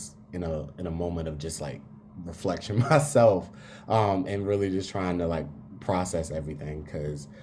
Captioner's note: laugh